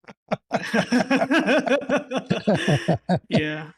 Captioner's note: laughter